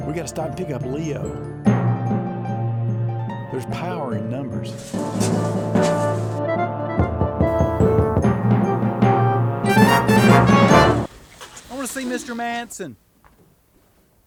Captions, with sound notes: We've got to stop and pick up Leo. There's power in numbers. [knocking on door] I want to see Mr. Manson.